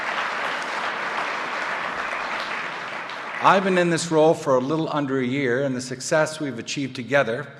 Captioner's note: applause